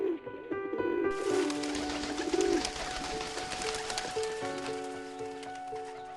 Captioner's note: gentle music; pigeons cooing